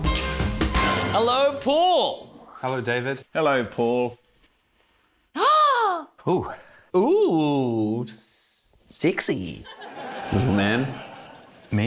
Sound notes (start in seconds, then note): 5.3 gasps